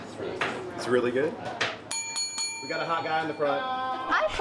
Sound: bell dings

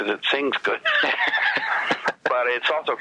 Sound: laughs

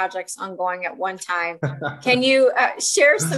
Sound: laughs

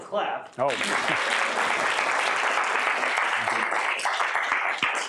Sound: applause

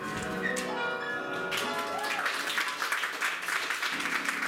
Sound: audience applause

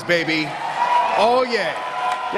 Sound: cheers

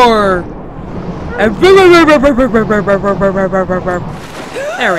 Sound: making mouth noises

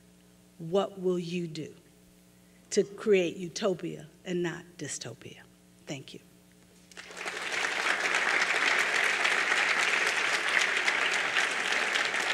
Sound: applause

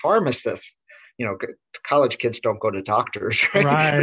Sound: laughs

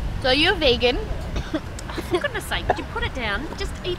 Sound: choking

